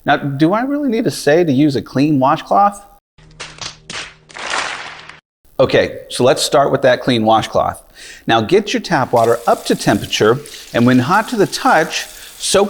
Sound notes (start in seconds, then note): 3.5 crowd tapping their heads